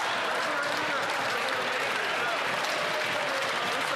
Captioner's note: some Applause